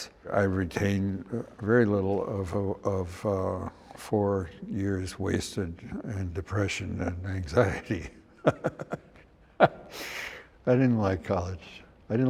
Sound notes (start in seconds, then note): 7.6 laughs